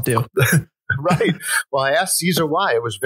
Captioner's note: laughs